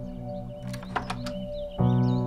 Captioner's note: Door opens